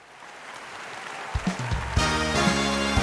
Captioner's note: canned applause; exciting music